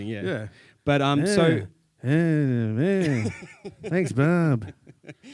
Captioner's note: imiates mumbling